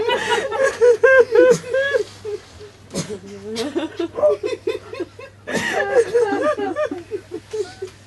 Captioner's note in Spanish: risas y sollozos